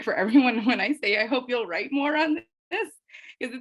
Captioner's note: chuckling